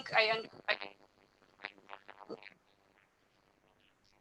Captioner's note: audio cuts off